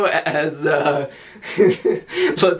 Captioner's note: chuckling